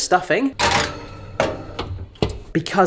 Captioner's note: oven rattling